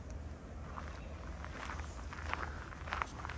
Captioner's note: walking on gravel